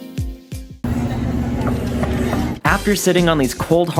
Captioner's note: knocking on hard metal chair at airport gate